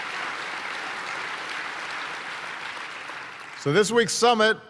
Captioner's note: applause